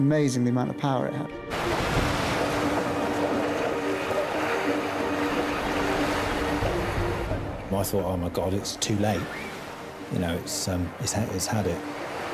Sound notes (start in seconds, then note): 2.5 tense music; 2.5 water sloshing